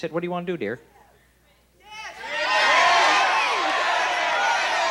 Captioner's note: audience shouting